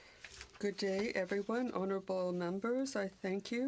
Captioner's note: speaking French